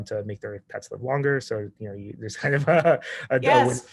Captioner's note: laughs